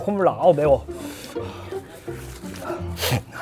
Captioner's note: sniff